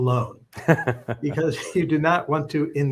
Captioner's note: laughs